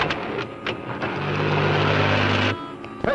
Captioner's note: car revving